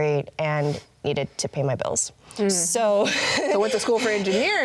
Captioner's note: laughs